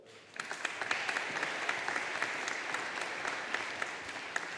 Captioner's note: audience applauding